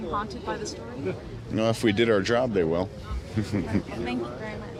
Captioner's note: chuckles